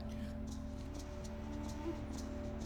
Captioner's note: percussive rattle sound